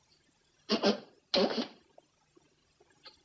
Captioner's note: blowing nose